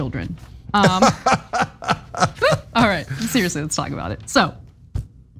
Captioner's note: laugh